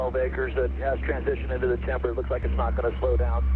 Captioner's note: aircraft